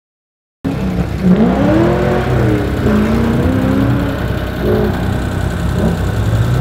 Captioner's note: car revs; engine hums